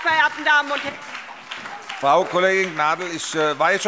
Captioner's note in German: Beifall SPD, Freie Demokraten und DIE LINKE